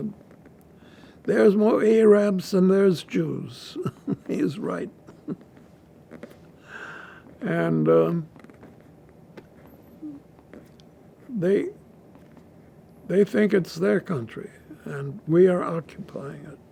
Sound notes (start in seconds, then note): 3.7 laughing